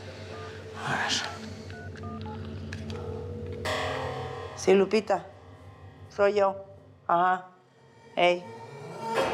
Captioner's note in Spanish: sonido al marcar